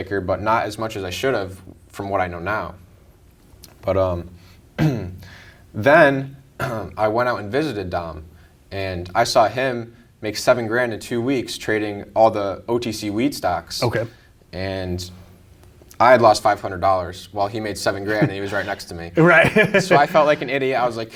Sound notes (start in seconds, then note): 18.0 giggles